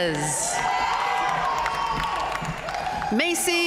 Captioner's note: audience cheering and applauding